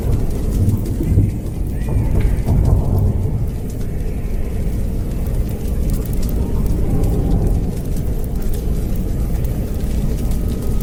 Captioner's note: walks away & cell door shut